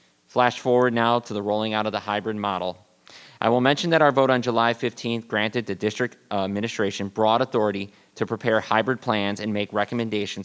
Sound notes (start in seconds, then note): none